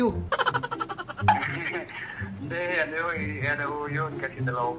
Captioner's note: laughing